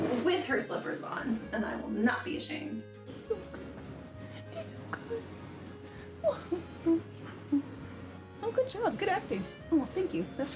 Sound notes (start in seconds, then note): 6.0 fake sobbing